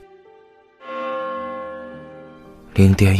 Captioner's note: The restaurant's midnight chime rings